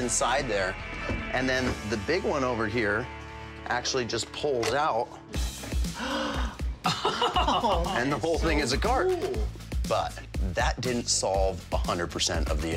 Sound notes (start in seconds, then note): 5.8 gasps